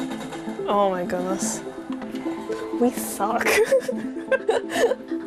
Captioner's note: laughs